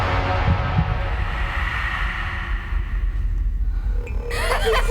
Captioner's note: dramatic musical score; wind whooshes